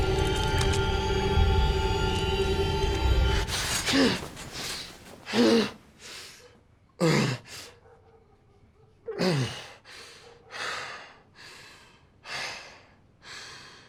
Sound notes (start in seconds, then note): 3.4 gasping; 5.8 breathing heavily